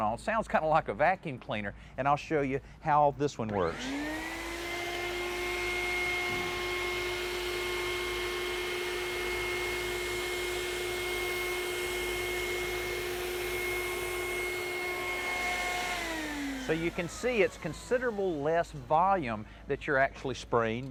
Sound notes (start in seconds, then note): 3.6 machinery whirring